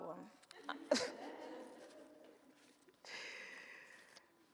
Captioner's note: audience laughs